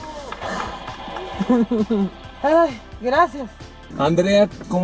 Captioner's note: nervous laugh